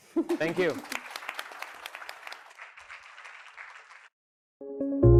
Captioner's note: audience applauds